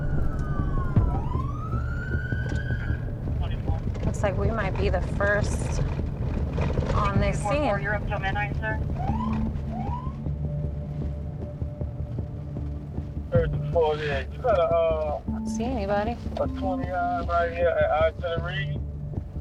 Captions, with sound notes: Looks like we might be the first on the scene. -(radio chatter) -(siren whoops) (radio chatter continues) I don't see anybody.